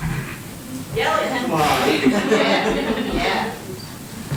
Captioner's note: cheering